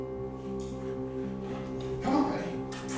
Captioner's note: smooches